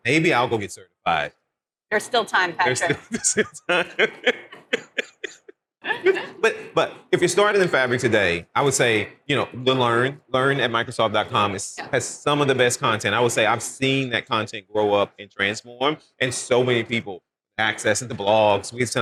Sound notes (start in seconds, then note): 2.6 laughing